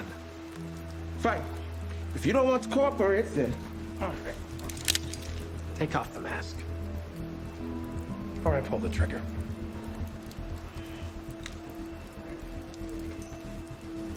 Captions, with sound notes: Fine. If you don't want to cooperate, then... - [gun cocks] - Take off the mask. Or I pull the trigger. [sighs]